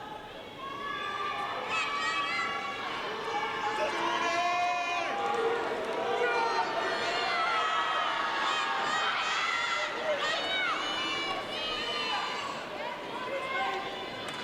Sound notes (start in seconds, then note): 1.0 audience excitedly cheering and shouting